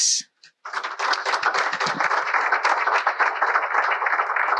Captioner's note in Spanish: aplausos